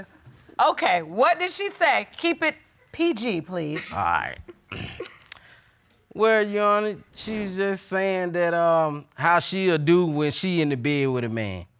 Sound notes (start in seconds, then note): 4.7 clearing throat